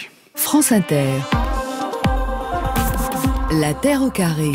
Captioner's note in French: Voix off